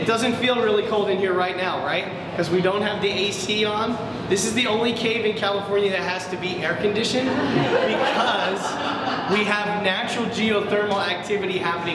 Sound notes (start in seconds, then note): 7.2 audience laughs